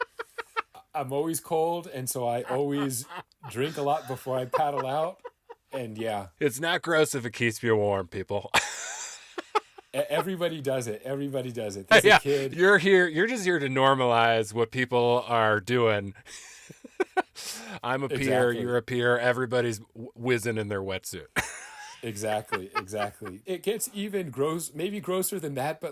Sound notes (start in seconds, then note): 8.8 laughing; 16.5 laughing; 21.4 laughing